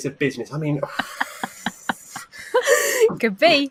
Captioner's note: laugh